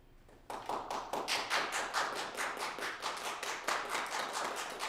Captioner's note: applause